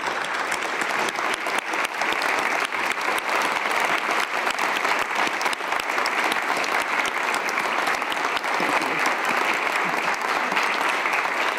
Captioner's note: applause